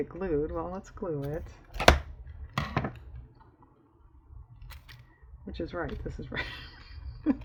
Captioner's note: laughs